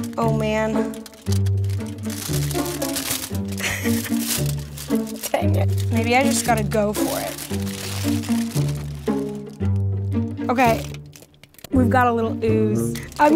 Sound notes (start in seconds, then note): 3.6 laughs; 8.2 light music